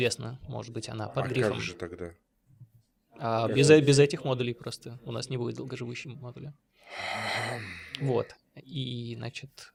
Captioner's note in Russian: вздыхает